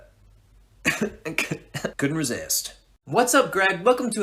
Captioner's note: laughs